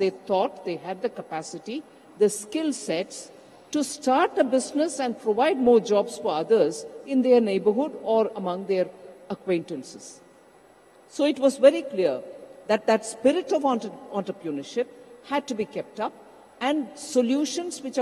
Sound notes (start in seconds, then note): none